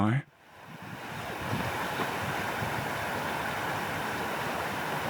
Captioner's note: overflowing water